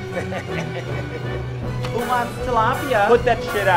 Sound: laughing

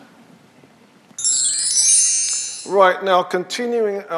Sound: chimes sounding

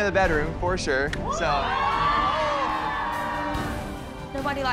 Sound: cheers and applause

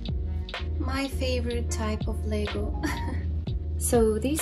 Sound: laugh

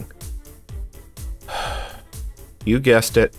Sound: sigh

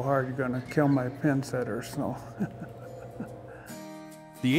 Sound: laughs

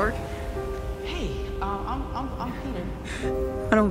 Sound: echoes

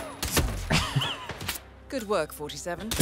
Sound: laughs

